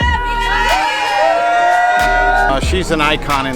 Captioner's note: group screaming